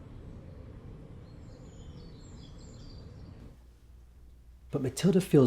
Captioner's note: birds chirping